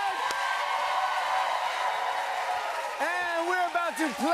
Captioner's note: cheers and applause